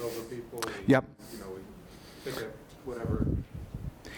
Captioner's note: voiceover